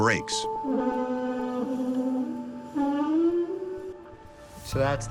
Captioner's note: screeching